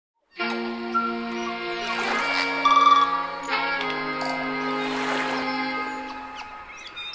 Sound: nature sounds; jazzy music

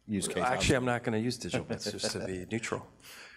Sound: laughs

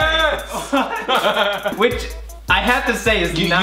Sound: brothers laugh loudly

